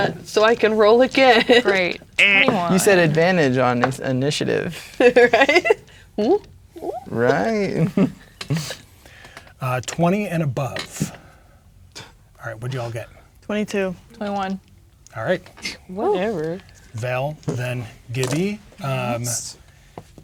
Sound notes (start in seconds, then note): 4.7 laughing; 6.8 chuckles